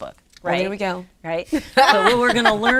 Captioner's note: laughs